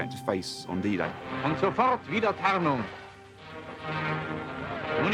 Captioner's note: foreign language radio announcement